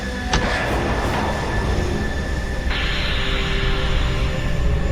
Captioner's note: spacecraft whooshing